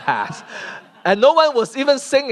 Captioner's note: laughter